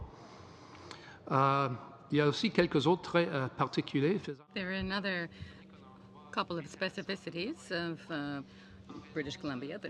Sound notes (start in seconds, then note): 6.4 speaking french